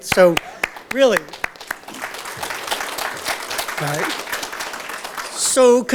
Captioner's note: audience Applause